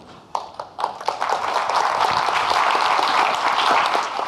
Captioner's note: audience clapping